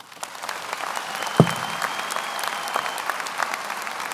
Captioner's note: audience applauds